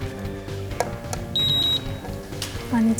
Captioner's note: beep beep beep